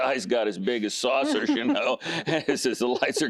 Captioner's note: giggling